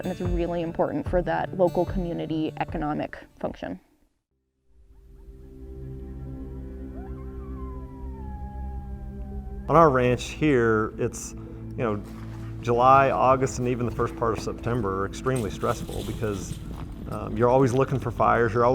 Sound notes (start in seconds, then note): 5.1 peaceful music; 7.2 coyote howls